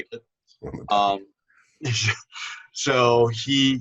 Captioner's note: laughter